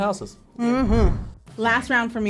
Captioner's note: animation whooshes